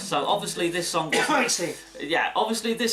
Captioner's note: cough